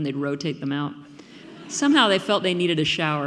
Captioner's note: audience laughing